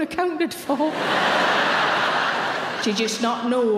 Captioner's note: audience laughing